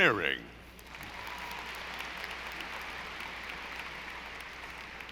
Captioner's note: audience applauding